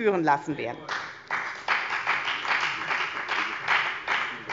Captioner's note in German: Beifall bei der FDP